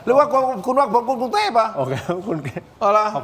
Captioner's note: laughter